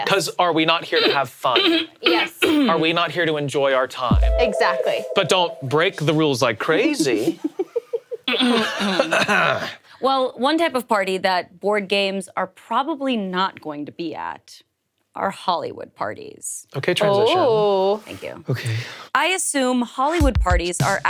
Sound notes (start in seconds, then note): 9.2 clears throat